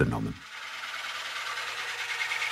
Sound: rattling

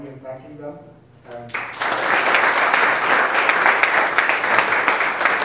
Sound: audience applauds

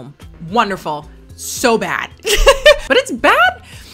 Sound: laughs

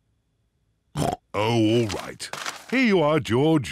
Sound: snorts

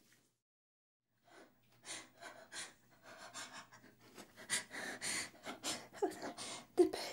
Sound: heavy panting

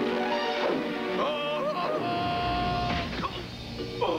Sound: tarzan yell; crash

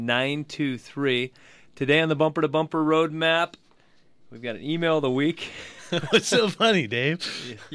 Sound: both laugh

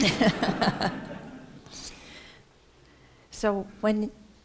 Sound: laughter

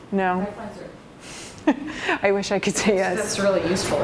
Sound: chuckles

